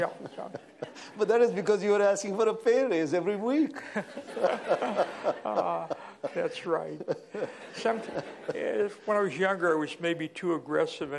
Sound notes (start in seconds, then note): 3.7 laughter